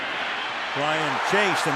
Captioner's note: cheering